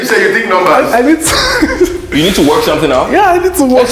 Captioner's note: laughs